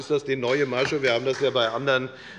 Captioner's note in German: Beifall bei Abgeordneten der SPD